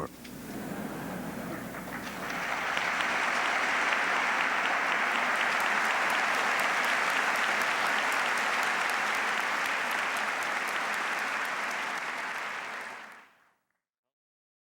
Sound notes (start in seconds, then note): 0.4 laughter; 2.4 applause